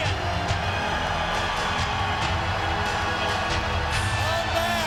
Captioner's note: applause